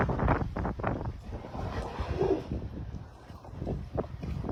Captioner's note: another whale breath